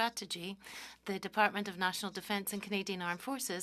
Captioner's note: speaking French